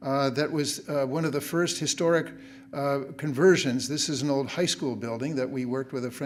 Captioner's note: none